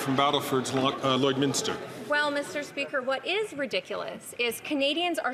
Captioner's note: applause